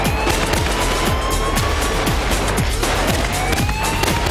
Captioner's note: police sirens blare